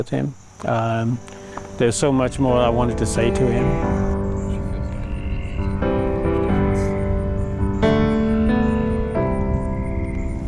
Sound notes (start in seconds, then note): 1.7 thunder rolling; 2.7 uplifting piano music